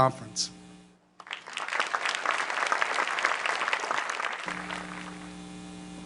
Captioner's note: applause